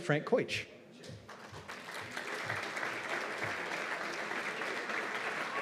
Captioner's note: cheers and applause